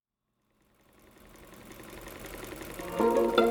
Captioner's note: sewing machine whirring; happy music